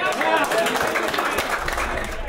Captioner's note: cheers